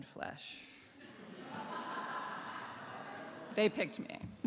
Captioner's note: laughter